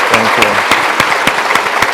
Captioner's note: applause